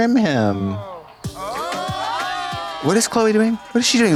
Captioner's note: people shouting